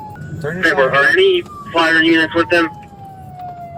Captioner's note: radio chatter